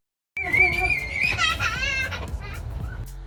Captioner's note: screaming